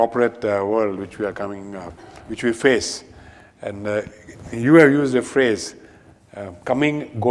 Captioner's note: none